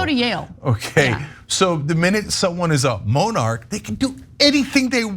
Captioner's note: laugh